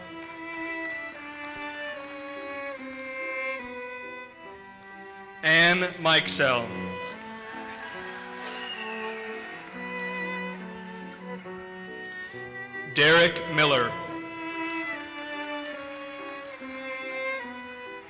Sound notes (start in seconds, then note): 0.1 audience applauses; 7.1 audience cheers and applauses; 14.4 audience applauses